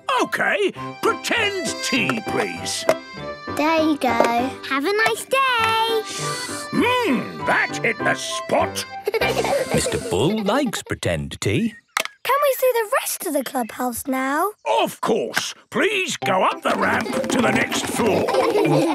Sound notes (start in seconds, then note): 6.4 slurping; 9.0 giggling